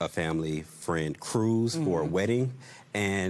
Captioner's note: none